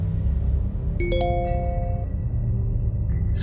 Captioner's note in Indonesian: Bunyi SMS Masuk